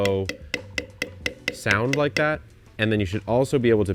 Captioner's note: spoon tapping